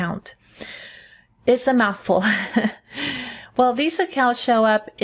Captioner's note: giggles